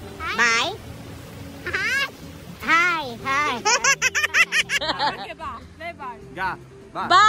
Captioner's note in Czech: Smích